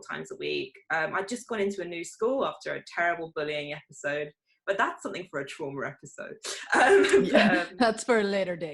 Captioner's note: giggles